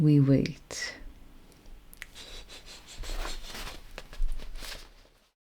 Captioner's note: whispering cackle